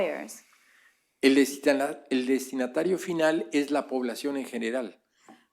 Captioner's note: speaking spanish